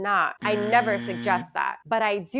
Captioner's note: buzzer ringing